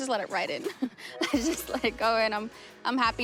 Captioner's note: laughs